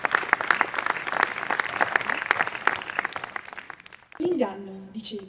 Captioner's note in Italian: applausi